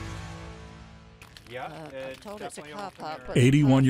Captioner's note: conversing, canes scraping